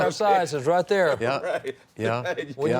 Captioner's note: laughs